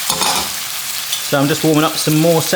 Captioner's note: pan clatters